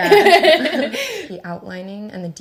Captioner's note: laughing